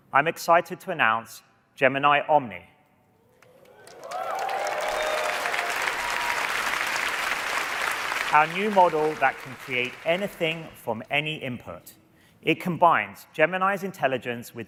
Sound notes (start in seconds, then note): 3.4 applause